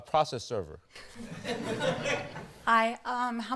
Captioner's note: laughter